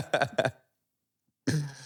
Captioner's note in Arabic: ضحك